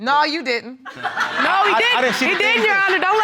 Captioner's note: audience laughs